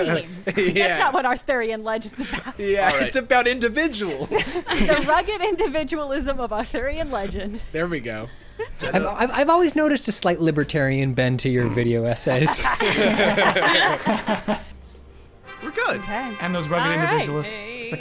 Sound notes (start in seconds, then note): 8.8 pat; 12.1 players laughing; 15.4 celebratory trumpets playing